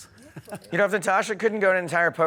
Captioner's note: laughs